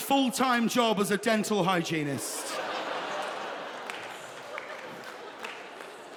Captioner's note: audience laughing